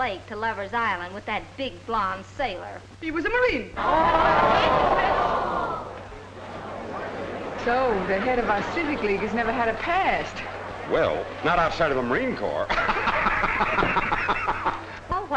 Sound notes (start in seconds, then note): 4.1 group gasping; 12.4 laughing